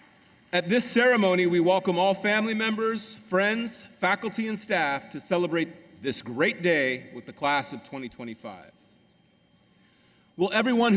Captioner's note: applause